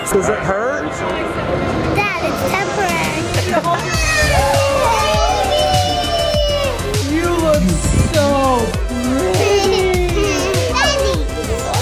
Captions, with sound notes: Does it hurt? - Dad, it's temporary. (family clamoring) - You look so pretty. - Daddy.